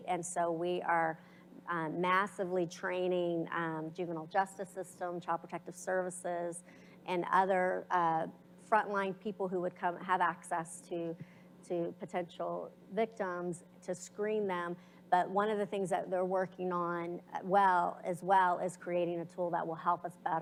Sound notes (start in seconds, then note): none